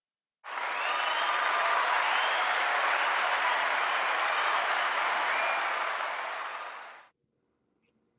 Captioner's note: cheers and Applause